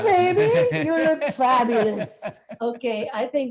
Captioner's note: laughing